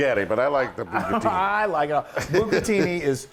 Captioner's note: laugh